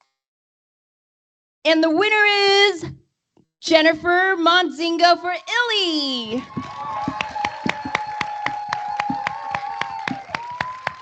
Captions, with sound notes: And the winner is Jennifer Montzingo for "Ily." [APPLAUSE]